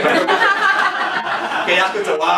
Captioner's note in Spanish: risas